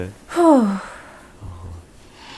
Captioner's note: whew~